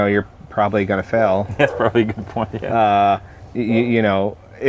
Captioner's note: laughs